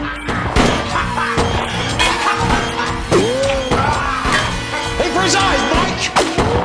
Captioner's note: laughing